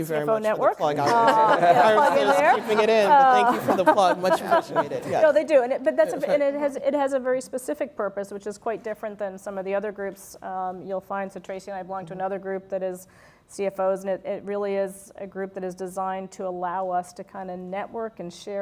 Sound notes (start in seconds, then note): 4.6 laugh